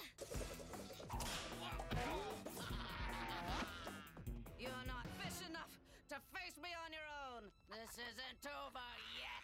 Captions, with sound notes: Whoa! (GRUNTS) (EVIL LAUGHTER) You're not fish enough to face me on your own! This isn't over yet!